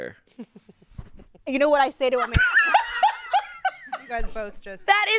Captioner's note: laughs; laughs